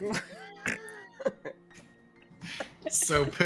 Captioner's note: Pippum snorts